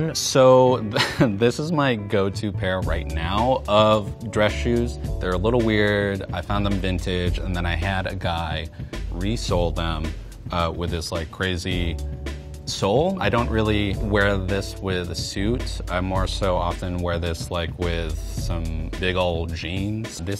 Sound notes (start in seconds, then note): 0.8 he chuckles